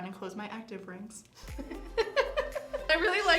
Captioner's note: laughs